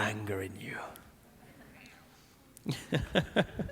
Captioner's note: laughing; audience laughing